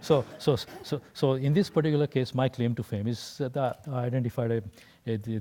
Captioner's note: laugh